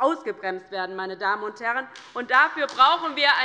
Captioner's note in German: Beifall bei der LINKEN